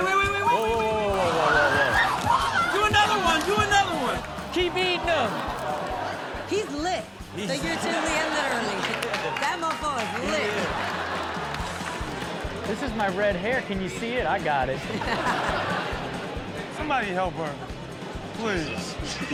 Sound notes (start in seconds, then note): 1.4 women screaming; 7.2 audience laughs; 14.8 all laugh